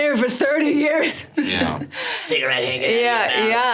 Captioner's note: Sarah laughs